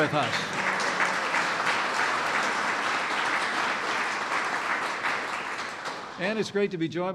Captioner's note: applause